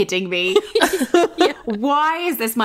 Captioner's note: both laughing